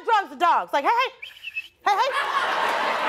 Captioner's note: she whistles